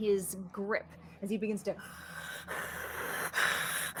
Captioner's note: hisses